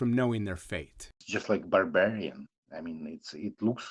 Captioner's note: through translator